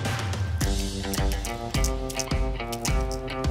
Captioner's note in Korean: 약통 흔드는 소리